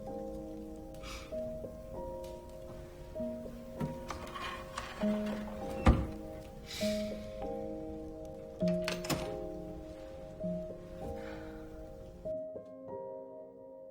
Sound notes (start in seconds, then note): 11.0 Serena exhales